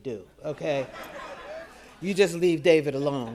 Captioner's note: audience laughing